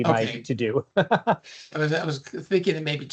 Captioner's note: chuckles